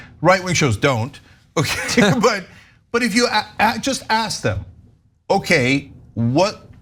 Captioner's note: laugh